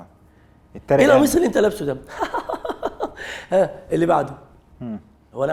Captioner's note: the doctor laughs